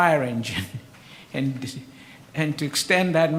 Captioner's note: laughs